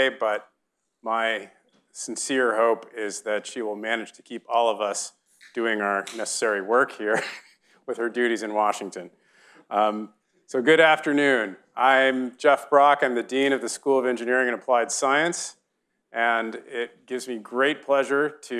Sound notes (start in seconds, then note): 7.0 chuckles; 7.1 audience chuckling